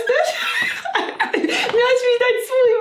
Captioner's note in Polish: dzikie śmiechy